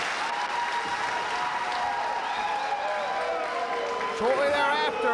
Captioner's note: spectators cheering and applauding